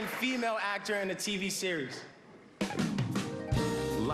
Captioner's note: applause